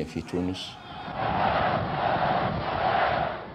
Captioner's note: military crowd